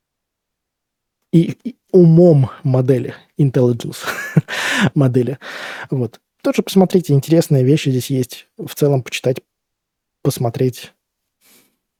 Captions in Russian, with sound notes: и умом модели Intelligence модели. [смех][тяжело вздыхает] Вот тоже посмотрите, интересные вещи здесь есть в целом почитать, посмотреть,